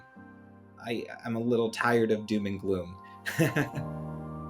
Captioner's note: chuckles